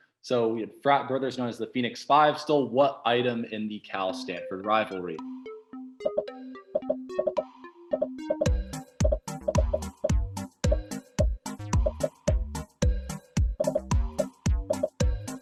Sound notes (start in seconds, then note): 5.7 popping; 5.7 upbeat music